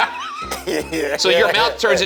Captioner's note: laughing